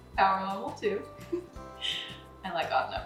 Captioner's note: laughing